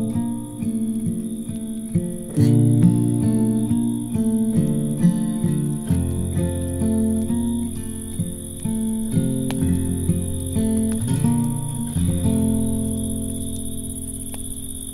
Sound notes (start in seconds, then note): 1.8 the sound of crickets and a campfire fades in